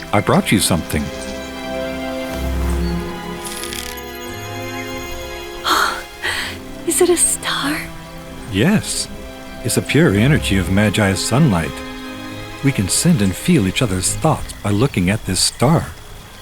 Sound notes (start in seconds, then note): 6.2 Mila gasps